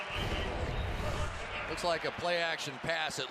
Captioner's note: swoosh